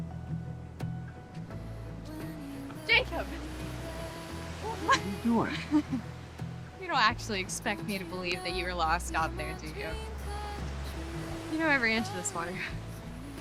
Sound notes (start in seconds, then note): 4.6 laughs